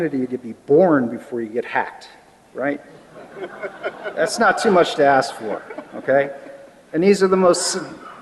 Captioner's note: laughter